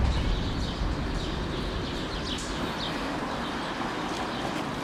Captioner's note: birds chirping